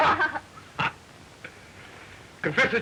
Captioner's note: laughing